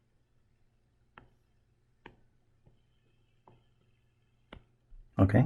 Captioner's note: writing Sounds